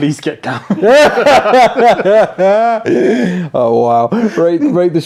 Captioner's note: all laugh